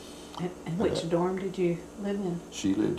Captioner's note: laughs